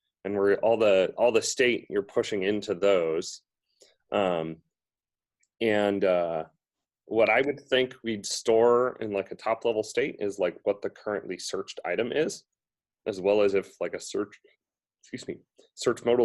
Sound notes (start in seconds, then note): none